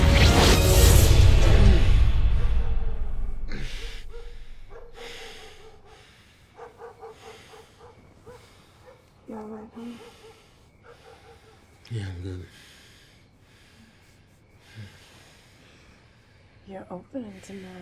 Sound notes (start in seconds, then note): 0.2 gun firing; 3.9 dog barking in distance; 6.4 breathing heavily; 10.3 sighing